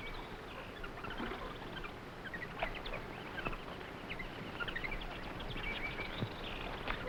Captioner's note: jungle animals chattering; water sloshing